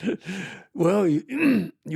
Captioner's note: laughing